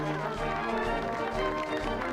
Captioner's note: applause